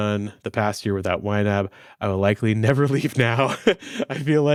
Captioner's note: laughing